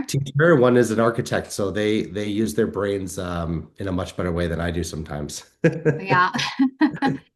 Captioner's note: chuckle